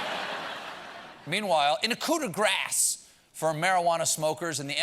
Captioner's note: laughter